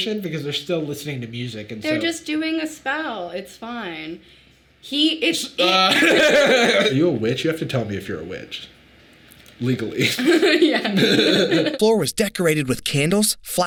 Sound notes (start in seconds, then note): 5.7 laughs; 10.0 both laughing; 10.0 laughs